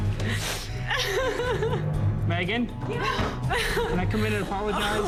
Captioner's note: weeps